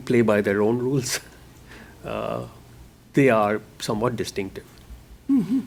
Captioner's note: chuckle